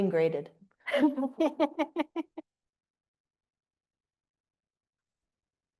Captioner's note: panelists laughing